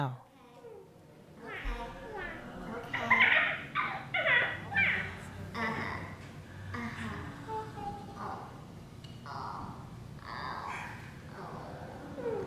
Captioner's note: The cacophony of STEPHANIES can be heard again